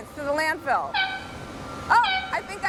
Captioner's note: air horn